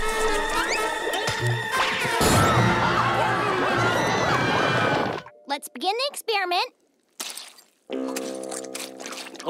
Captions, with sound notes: [screaming] Let's begin the experiment.